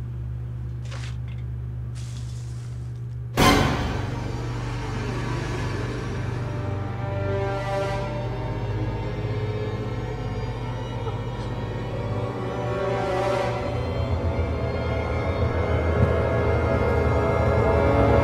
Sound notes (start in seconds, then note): 1.9 popcorn scoops; 3.4 suspenseful music; 10.8 scared breathing; 13.6 music intensifies